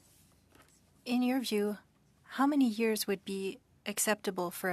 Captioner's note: speaking French